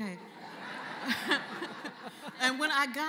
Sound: laughter

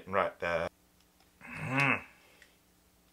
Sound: grunt

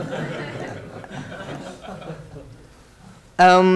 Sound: laughing

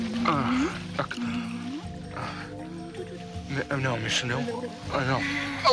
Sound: <i> moaning</i>

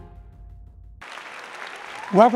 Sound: applause

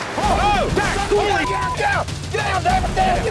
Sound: yelling

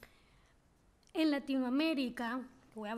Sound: speaking spanish

